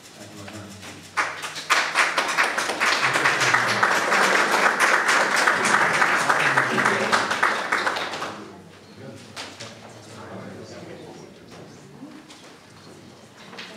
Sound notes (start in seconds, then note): 1.0 applause